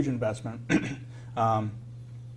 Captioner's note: cough